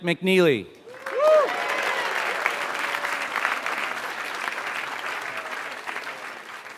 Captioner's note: applause